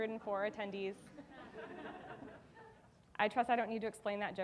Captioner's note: audience laughing